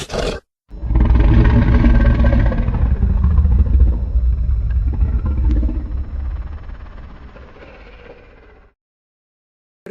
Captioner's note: huffing; distant roaring